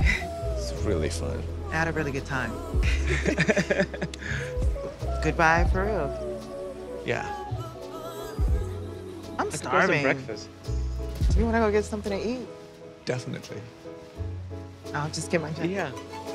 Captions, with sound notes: -It was really fun. -I had a really good time. [both laugh] Well, good-bye for real. Yeah. -I'm starving. -I could go for some breakfast. Do you wanna go get something to eat? Definitely. -I'll just get my jacket. -Yeah.